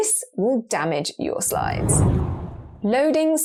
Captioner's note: video effect whooshes